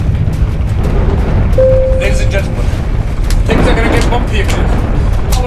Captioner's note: ding